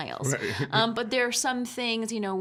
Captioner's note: chuckling